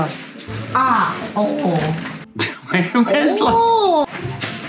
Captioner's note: ahh